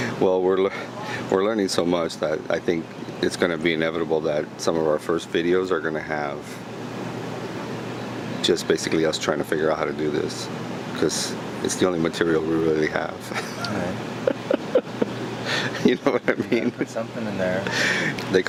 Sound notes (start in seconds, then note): 14.2 laughing